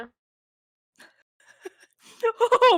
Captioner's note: laughs